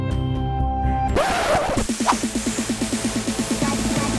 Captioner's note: disc scratch; upbeat music